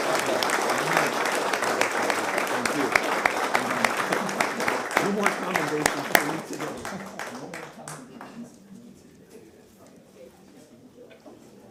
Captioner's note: applause